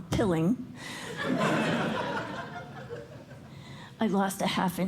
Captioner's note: laughter